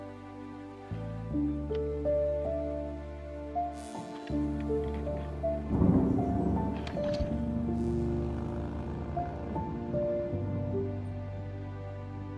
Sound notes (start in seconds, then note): 6.2 thunder and motorcycle in distance